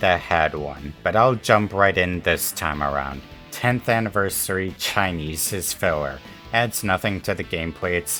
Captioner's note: chinese